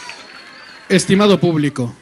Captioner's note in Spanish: aplausos